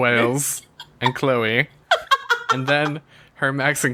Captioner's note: laughs